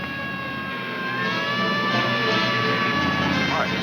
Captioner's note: siren blaring